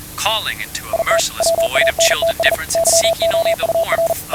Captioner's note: morse Code